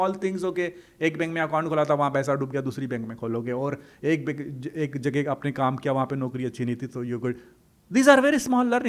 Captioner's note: hindi